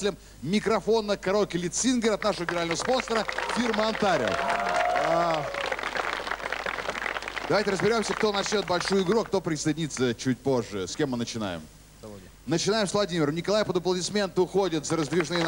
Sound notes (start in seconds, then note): 5.1 applause